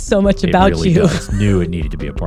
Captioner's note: laughing